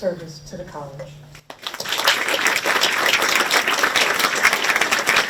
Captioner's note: audience applauds